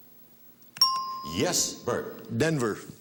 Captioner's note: ting